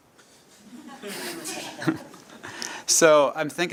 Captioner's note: laughter